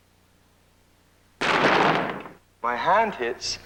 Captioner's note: bang